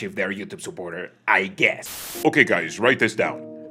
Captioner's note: distortion